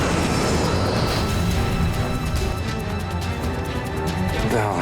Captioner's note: aircraft exploding